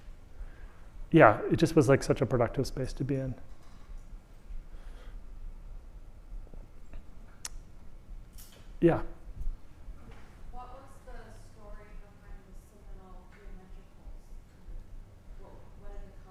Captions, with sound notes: yeah it just was like such a productive space to be in. Yeah. [Audience member speaking]